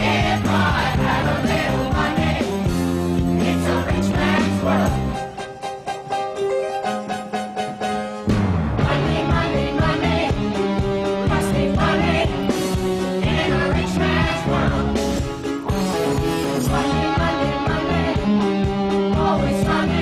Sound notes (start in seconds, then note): none